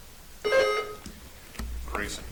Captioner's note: buzzer chimes